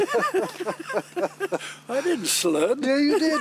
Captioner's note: laughing